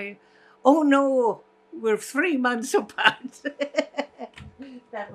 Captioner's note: laughing